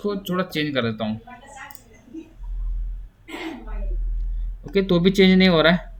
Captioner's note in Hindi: गला साफ़ करने की आवाज़